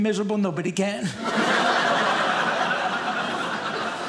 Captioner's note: audience laughing